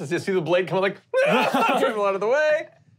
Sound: screaming

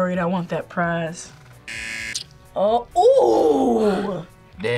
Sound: buzzer

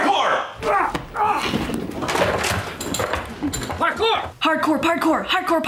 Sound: grunts

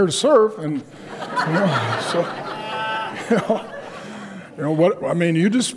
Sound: audience laughs

